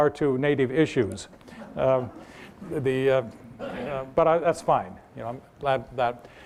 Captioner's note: laughter